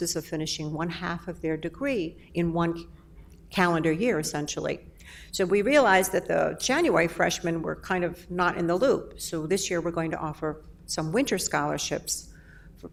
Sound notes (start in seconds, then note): none